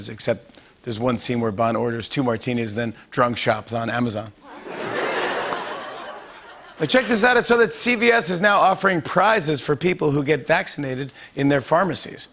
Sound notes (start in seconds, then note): 4.4 laughter